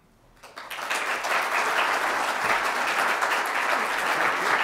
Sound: audience applauding

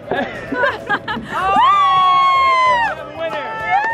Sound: spectators laugh and cheer

